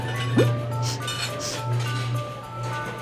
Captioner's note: sniffing